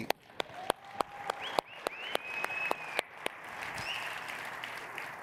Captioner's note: everyone applauding